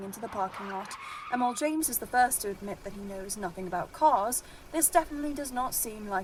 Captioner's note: tires screech